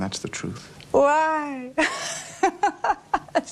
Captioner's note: laughs